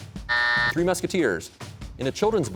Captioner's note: buzzer sounds